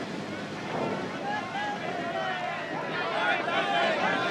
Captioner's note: shouting